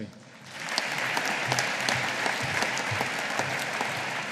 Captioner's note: audience applauding